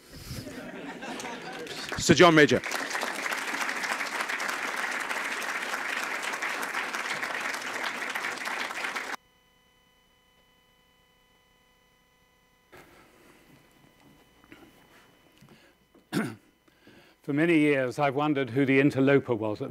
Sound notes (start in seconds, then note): 0.2 audience laughing; 3.0 clapping